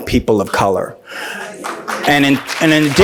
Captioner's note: applauds